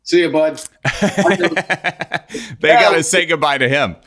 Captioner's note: laughing